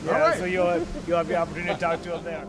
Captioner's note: chuckles